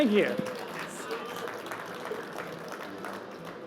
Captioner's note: applause